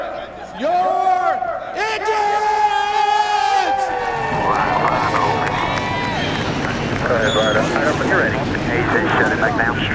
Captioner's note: cheers and applause